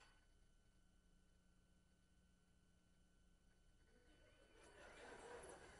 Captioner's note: class laughs